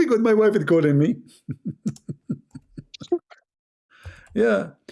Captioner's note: Ketawa